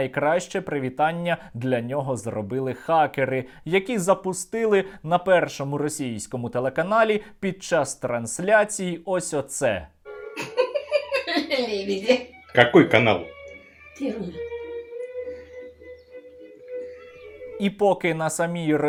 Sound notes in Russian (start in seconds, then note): 10.3 смех